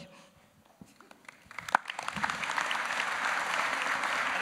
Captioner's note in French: Applaudissements